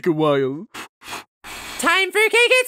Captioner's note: blowing sounds